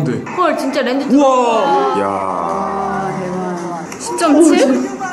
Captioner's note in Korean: 탄성